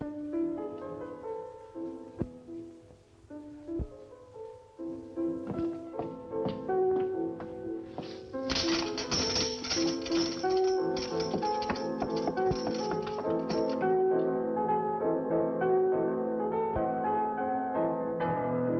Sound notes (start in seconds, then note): 7.9 chains rattling; 14.7 light piano music continues